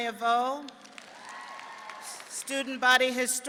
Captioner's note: audience clapping and cheering